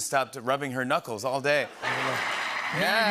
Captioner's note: applause